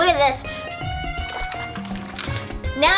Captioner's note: water swishes softly